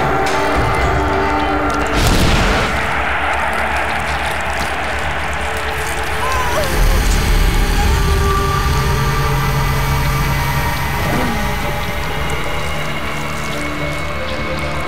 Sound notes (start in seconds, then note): 6.6 moaning